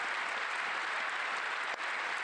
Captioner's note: applause